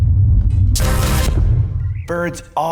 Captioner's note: electricity buzzes